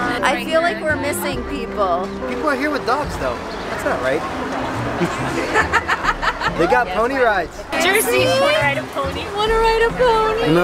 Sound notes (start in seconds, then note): 4.9 laughing